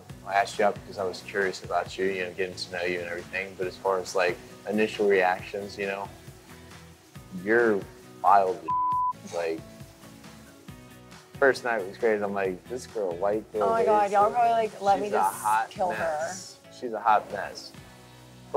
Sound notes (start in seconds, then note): 8.6 beep